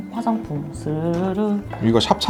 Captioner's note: sliding open smoothly~~~